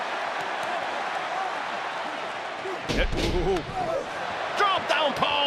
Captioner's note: applause; laugh